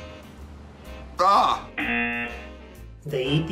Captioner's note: buzzer